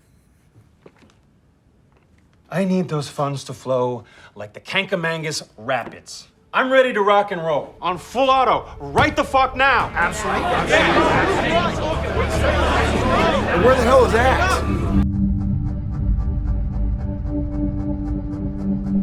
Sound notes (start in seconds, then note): 10.4 group shouts; 10.4 ominous music; 15.4 dramatic music